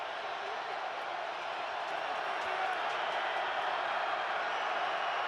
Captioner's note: cheers